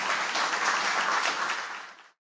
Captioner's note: applause